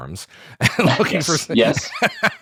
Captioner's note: laughs